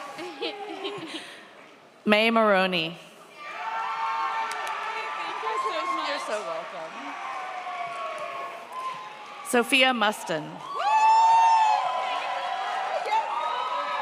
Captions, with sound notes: May Maroni. (audience cheers) Sophia Mustin. (audience cheers)